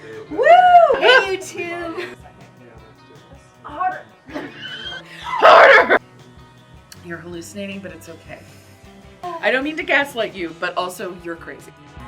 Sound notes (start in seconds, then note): 0.0 shocked laughter; 4.3 laughs